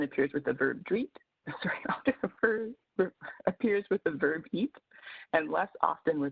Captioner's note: laughs